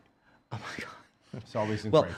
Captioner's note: sighs